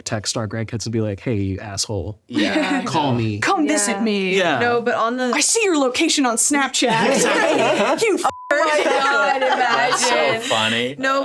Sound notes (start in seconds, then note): 8.2 beep; 8.5 all laughing